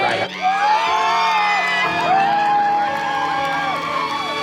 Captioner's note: cheering and applause; upbeat dramatic music